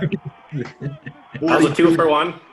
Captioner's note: all laugh